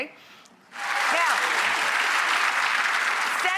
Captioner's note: audience applause